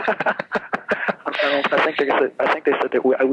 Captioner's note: laughs